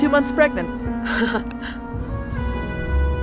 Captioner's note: chuckles